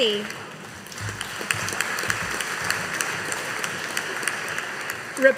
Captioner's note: audience applauding